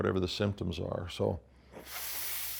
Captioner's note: inhales deeply